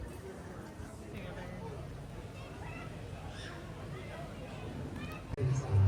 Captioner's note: people chattering